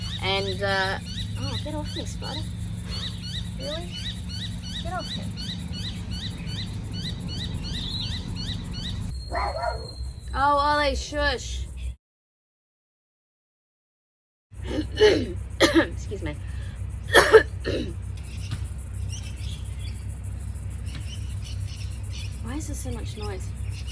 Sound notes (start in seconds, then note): 9.3 Ollie barks in the background; 16.3 birds and digging tools are loud; 17.1 clears throat loudly; 17.1 more throat clearing